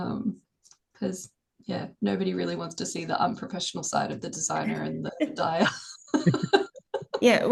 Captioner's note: laughs